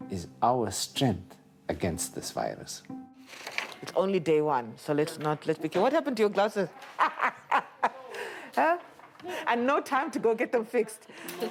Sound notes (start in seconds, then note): 6.8 laughs